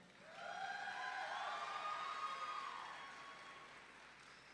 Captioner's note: audience cheering